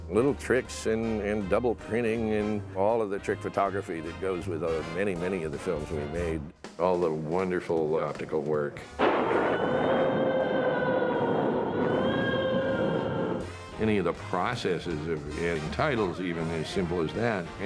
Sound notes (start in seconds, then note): 8.9 thunder rumbles; 10.7 howling